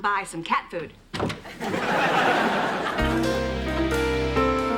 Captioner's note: laughter